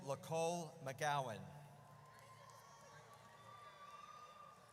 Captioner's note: audience cheers